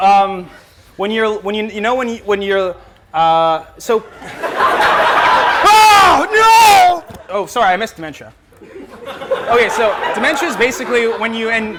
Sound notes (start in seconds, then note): 4.2 laughter